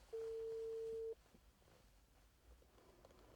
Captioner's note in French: none